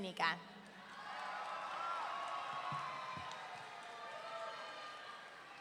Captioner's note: audience cheering